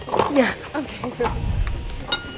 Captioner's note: ding; laughs